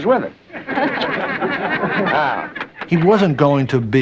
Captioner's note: people Laughing